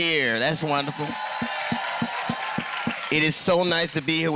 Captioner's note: applause